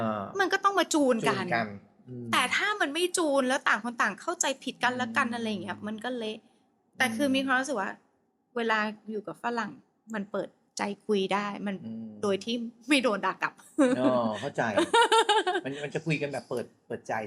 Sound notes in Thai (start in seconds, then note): 13.8 เสียงหัวเราะ